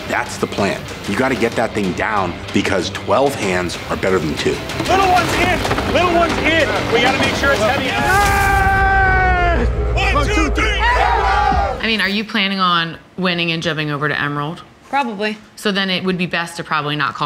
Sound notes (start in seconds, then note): 7.8 contestant yells